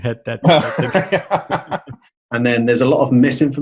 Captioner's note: laughing